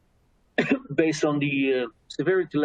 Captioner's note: coughs